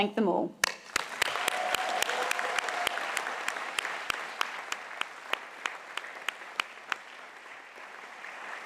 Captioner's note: applause